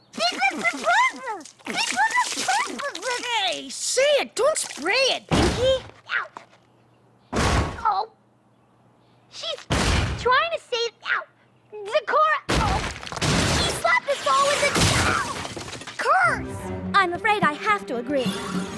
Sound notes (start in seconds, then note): 7.3 thud!; 9.7 thud!; 13.1 thud! Slam!; 14.3 crash!